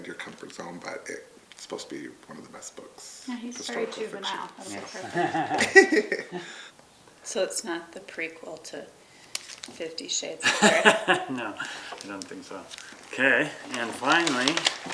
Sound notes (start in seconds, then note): 5.1 laughs; 10.4 laughs